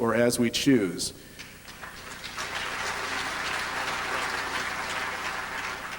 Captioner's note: applause